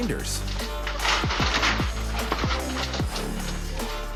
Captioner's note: gate rattles